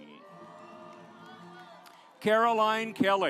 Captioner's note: audience applauds